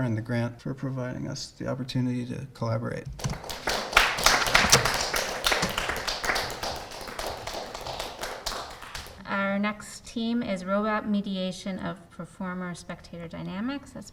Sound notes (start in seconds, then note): 3.2 crowd claps